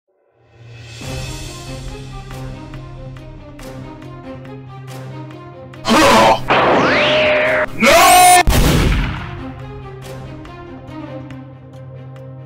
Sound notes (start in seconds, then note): 0.0 dramatic Music; 8.4 gunshot